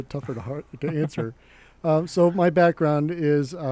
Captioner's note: laughs